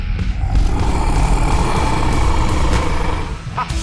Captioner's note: sea monster roaring